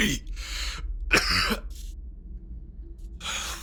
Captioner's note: coughs